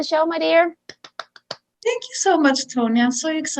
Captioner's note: clapping